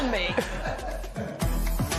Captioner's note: laughter